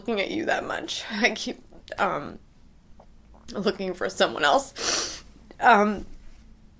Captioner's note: sniffs